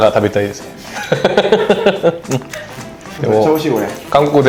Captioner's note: laughs